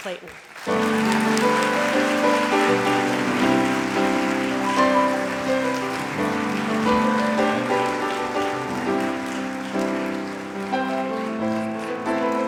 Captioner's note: applause and music